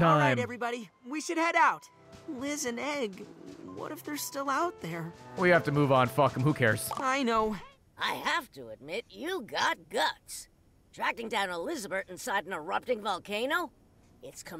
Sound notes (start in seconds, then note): none